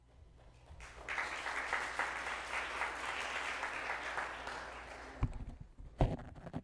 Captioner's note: applause